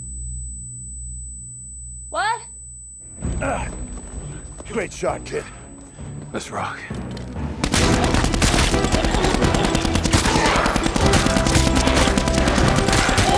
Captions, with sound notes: - What? - Ah, you great shot kid. - Let's rock. (triumphant music) (gunshots popping)